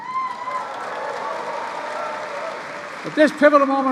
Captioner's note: applause